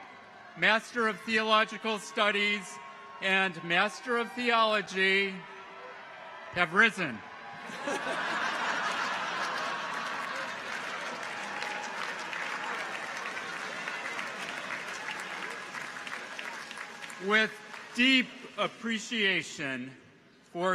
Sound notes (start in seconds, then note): 7.6 audience laughs; 11.7 audience applauds